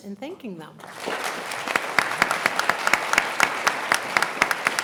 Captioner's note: all applauding